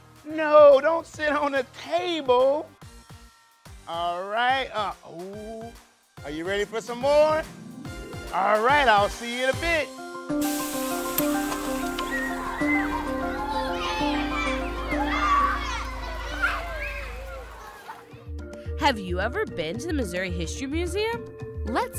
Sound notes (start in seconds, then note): 10.2 bright music; 10.4 brakes hissing; 11.9 children yelling